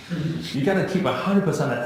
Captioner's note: laughing